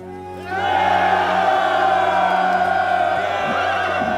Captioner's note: soldiers cheer